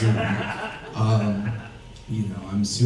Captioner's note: audience laughs